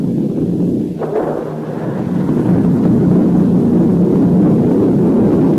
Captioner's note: explosions booming